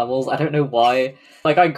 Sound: laughs

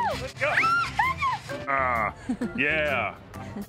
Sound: laughing; laughs

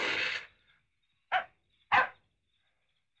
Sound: dog barking

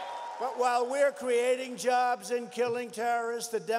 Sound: cheers and Applause

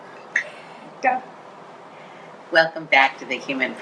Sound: everyone Laughing Quietly

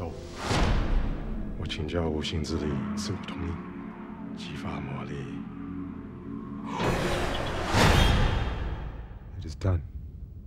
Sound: speaking in foreign language

